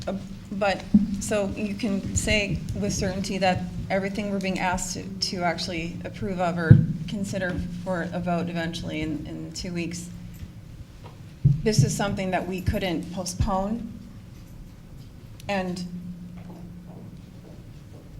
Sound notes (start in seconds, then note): none